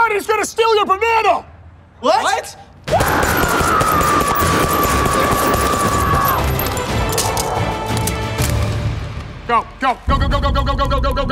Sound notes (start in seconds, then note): 2.9 gun booming; 2.9 officer yelling